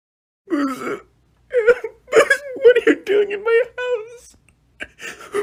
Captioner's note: sobs